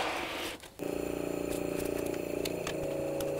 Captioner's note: vacuum hums